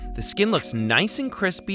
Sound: bell dings

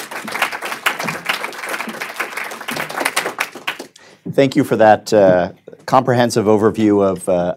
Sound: applause

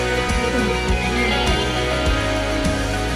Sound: whistle

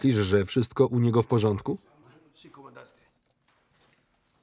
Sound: speaking in Spanish

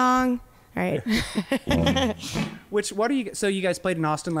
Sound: laughing

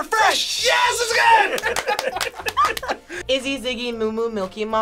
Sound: group laughs

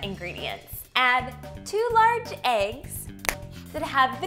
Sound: snaps fingers

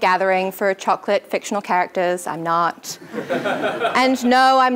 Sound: laugh

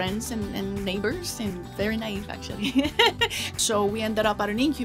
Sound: laughs

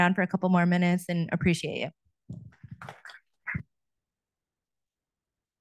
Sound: audience applauding

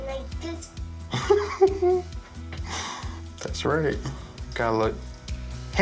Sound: laughs

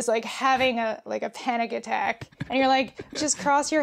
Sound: laughs

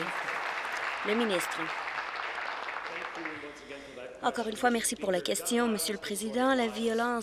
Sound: applause

